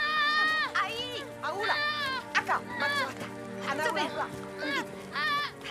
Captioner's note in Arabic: الصوت المنطوق الأجنبي